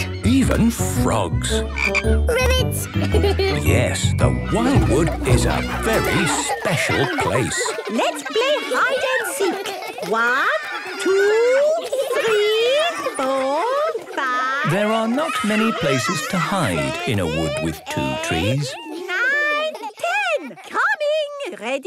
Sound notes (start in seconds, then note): 1.6 croaking; 3.2 giggling